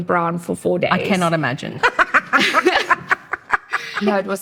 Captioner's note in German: lacht